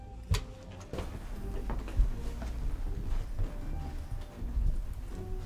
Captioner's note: footsteps padding